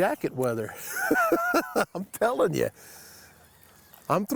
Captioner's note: laughs